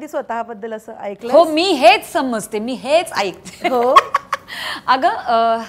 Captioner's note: Laughing